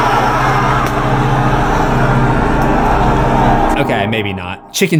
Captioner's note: screams